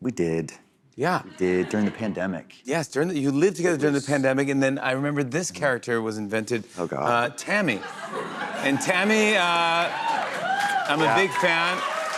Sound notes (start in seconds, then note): 7.7 laughter; 11.9 cheers and applause